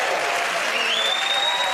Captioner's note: cheers and applause